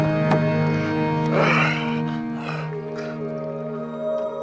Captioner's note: groaning; soft music